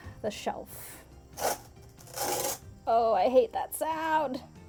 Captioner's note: scraping Sound